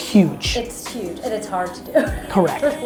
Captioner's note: laughs